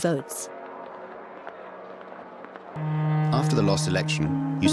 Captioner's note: bells tolling